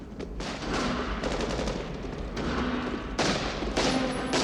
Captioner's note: machine gun fire